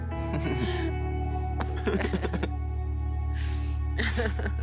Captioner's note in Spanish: Risas